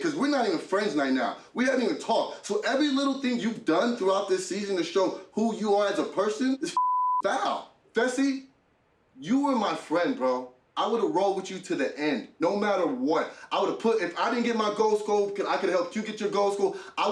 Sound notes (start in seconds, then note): 6.7 beep